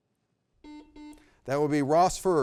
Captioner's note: double beep